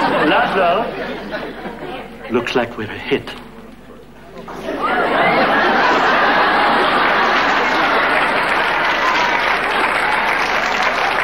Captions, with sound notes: Laszlo, looks like we're hit. (audience laughing)